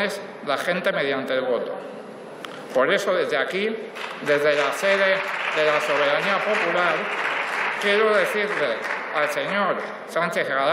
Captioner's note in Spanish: Aplausos